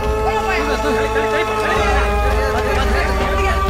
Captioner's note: babble of voices